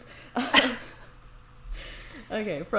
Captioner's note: laughs